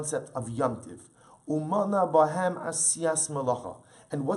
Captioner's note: Hebrew